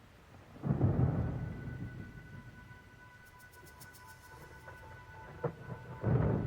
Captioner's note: thunder rumbling over eerie electronic music